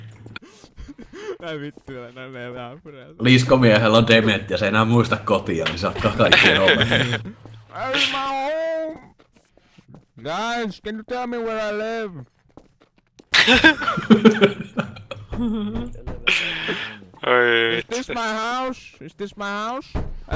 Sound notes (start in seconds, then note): 15.0 bangs door